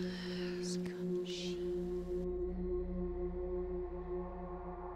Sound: voices whispering

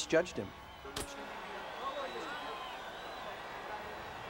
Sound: audience applauding

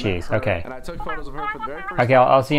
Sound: cartoon voice

